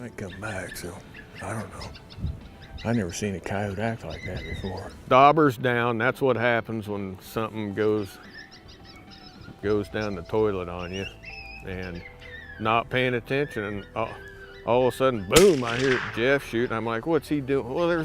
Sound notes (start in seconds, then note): 10.6 animal calls; 15.3 gun firing